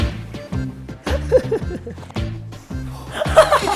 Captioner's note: laughing like a crazy person